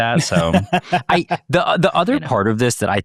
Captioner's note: laughs